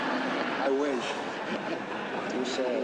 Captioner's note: laughter